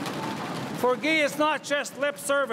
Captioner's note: crowd cheering and applauding